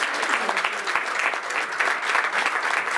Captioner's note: clapping